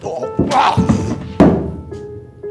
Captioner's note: Ulysses grunts; hammer banging